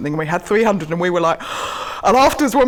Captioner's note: gasps